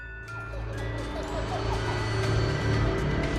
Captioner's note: child laughing